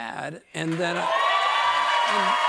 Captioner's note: cheers and applause